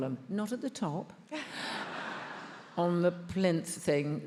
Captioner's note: attendees laughs